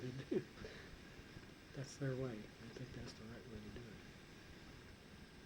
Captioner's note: chuckles